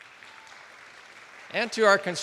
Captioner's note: attendees applauding